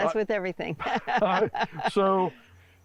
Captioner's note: laugh